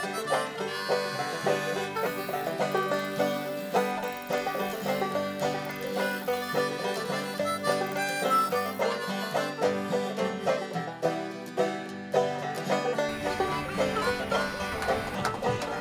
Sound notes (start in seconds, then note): 0.0 bluegrass music; 2.0 cheers and laughter